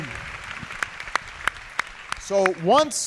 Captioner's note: applause